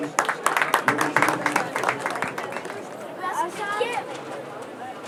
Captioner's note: applause